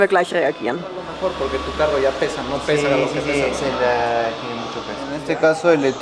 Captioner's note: in Spanish